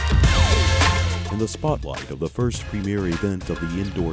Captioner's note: voiceover